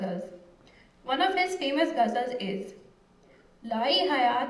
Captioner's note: non-english speech